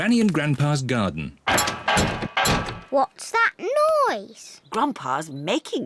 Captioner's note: clattering and clanging